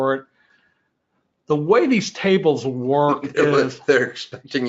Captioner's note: laughs